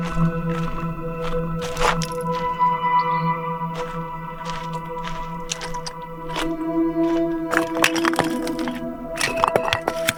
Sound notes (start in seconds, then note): 1.4 footsteps crunching